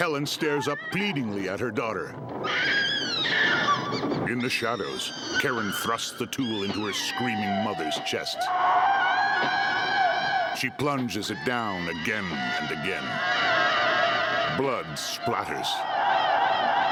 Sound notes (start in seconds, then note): 2.5 Helen screeching; 9.5 shrieks echoing discordantly